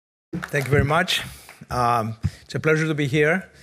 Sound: audience applauding

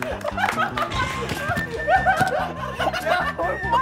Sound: dies of laughter after late realization

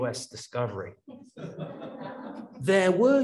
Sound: audience laughs

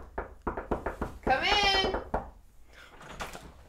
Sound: rhythm door knocking; still knocking

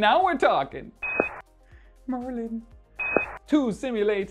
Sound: futuristic tone beeps; futuristic tone beeps

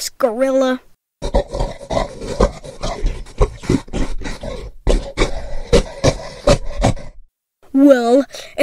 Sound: a gorilla belches and grunts

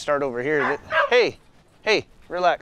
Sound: dog barking

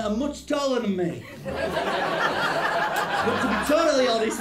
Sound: laughter

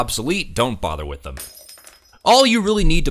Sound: shattering glass

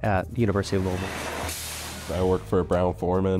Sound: machinery noise

